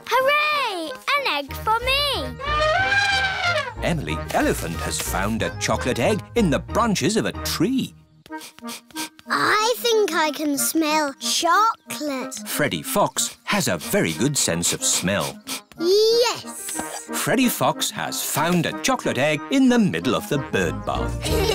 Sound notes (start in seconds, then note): 2.3 trumpets; 8.2 sniffs; 14.8 sniffs